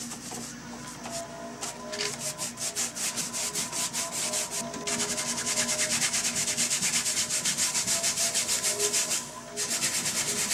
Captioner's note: brush swishing